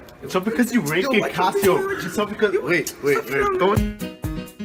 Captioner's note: arguing